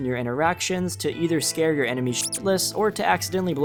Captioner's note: beep